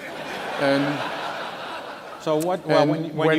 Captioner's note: laughter